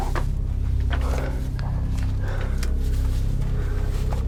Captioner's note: breathing heavily